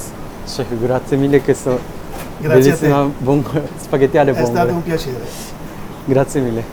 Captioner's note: Italian